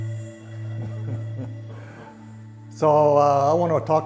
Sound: chuckles

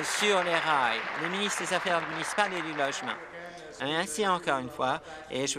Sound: applause

